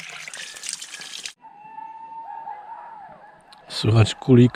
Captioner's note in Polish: Krzyki